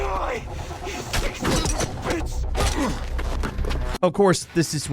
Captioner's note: people struggling